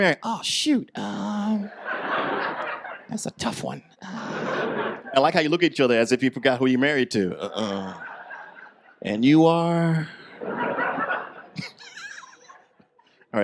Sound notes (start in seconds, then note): 1.6 audience laughs; 10.2 laughs